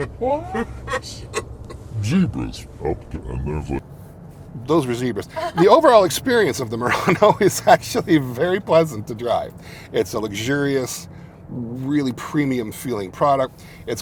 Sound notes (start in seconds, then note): 0.0 passenger laughs; 7.4 laughs